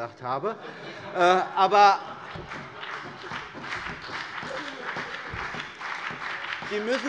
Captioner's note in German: Heiterkeit und Beifall BÜNDNIS 90/DIE GRÜNEN und vereinzelt CDU